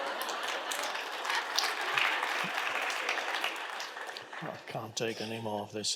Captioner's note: audience applauding